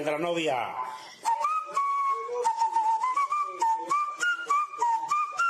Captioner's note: whistles